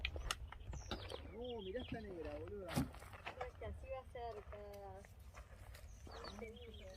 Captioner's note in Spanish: Se oyen voces lejanas